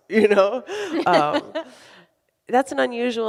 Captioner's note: laughs